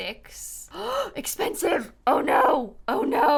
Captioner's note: gasps